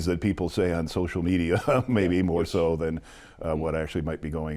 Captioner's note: laughs